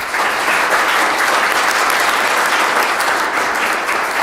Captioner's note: attendees clapping